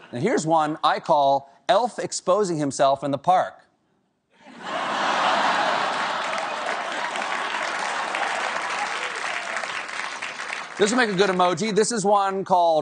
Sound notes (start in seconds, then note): 4.4 laughter; 5.4 applause